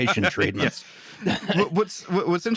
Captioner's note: laughter